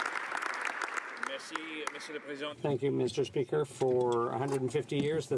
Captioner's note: some Applause